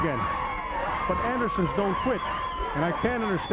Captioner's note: crowd cheering